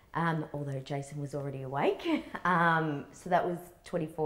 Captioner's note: chuckles